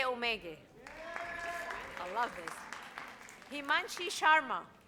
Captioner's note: audience cheers